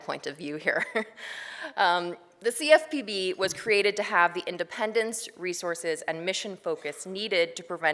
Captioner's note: laughs